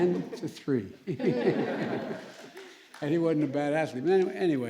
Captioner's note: laughter